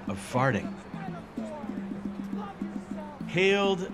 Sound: shouting

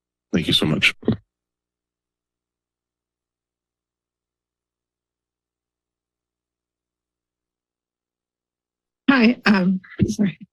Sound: silence

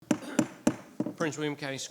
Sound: gavel thudding

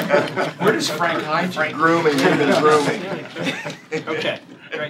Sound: laughter

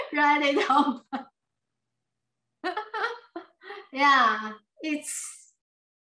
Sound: laughs

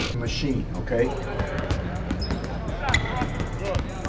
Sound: sneakers squeaking; basketball bouncing

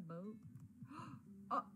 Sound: gasps

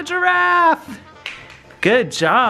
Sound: clapping

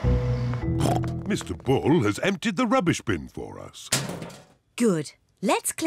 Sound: snorts

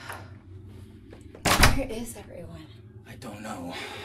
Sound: door shuts

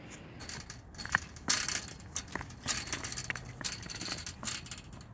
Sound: fence clanging

